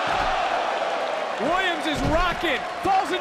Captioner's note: crowd cheers